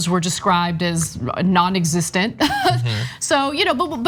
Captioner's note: laugh